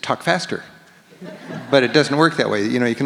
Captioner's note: audience laughs